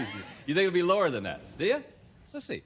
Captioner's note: laughter